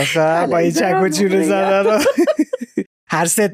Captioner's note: laughs